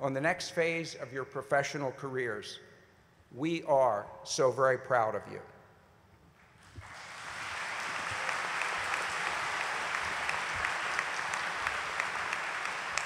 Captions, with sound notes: NEXT PHASE OF YOUR PROFESSIONAL CAREERS. WE ARE SO VERY PROUD OF YOU. [ APPLAUSE ]